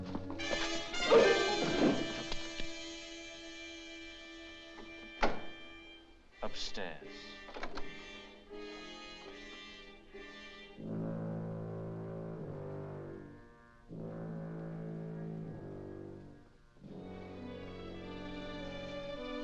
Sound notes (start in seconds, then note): 0.3 suspenseful music; 4.8 door opens; 7.0 ominous music